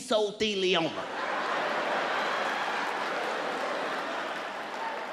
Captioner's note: audience laughs